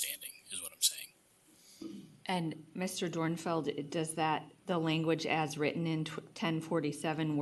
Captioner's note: clears throat